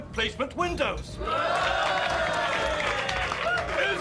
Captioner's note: all cheering